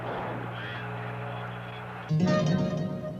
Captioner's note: radio chatter